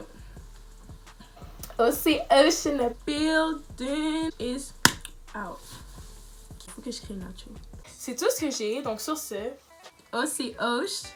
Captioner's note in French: clap